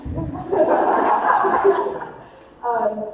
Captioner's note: attendees laughing